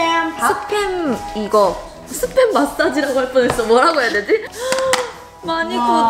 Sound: speaking in foreign language

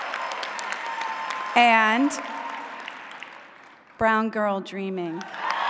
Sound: cheering; applause

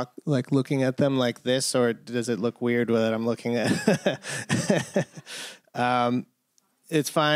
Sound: laughter

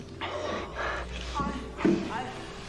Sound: moans from telephone

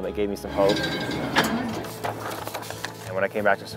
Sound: lifting weights

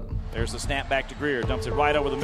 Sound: voiceover

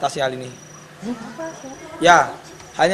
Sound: people mumbling

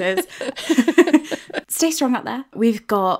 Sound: laughing

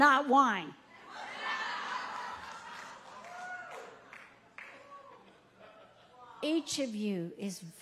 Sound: audience laughing and clapping

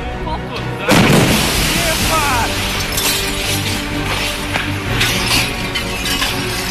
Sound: glass shattering; explosion

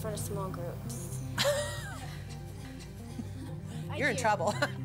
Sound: laughter

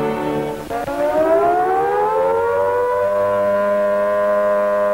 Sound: alarm blaring

